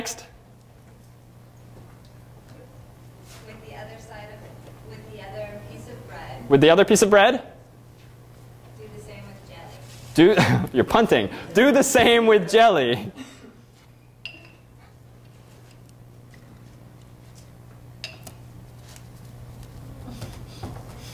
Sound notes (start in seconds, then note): 13.1 laughter